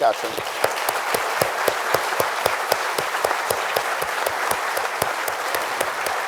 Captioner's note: panelists & audience applauding